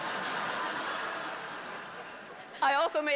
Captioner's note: laughter